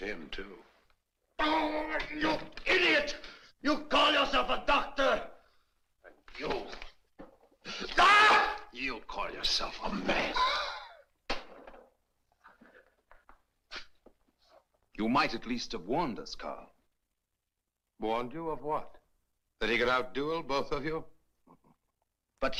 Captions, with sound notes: Oh! You idiot! You call yourself a doctor? And youó [Yelps] You call yourself a man? [Wheezes] You might at least have warned us, Karl. Warned you? Of what, that he could outduel both of you? But he's an Englishman.